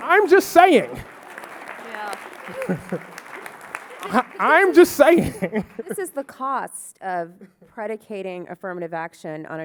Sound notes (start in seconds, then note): 1.6 audience clapping